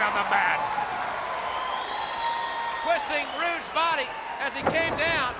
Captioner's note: applause